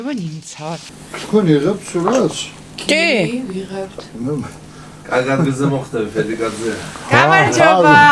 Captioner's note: everyone saying yes